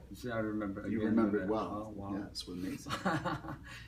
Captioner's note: laughs